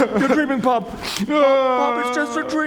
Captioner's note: sobs.wav